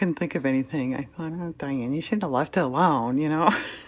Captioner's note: laughs